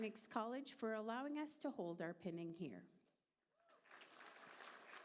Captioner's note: applause